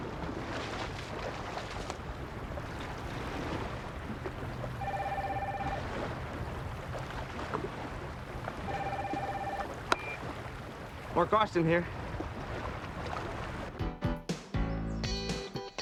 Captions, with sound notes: (phone ringing) - Mark Austin here. (swanky music)